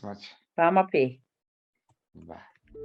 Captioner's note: speaking foreign language